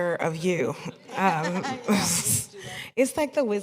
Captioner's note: laughter